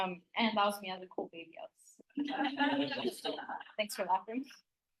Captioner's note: laughter